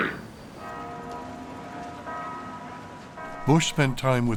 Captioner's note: bell tolling